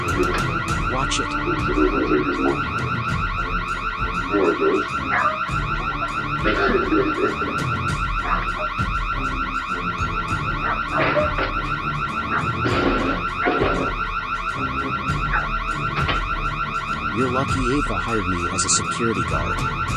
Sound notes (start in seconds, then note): 2.7 Ella and other dogs barking; 2.7 car alarm continues